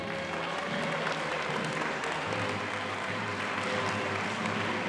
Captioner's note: audience applauding